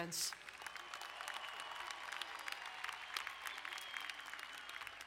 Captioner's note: crowd cheering and applauding